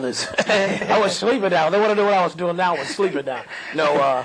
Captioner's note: laugh